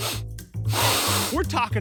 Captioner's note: sniffs